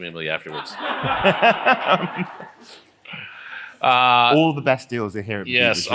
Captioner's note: laugh